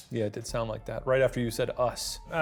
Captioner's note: none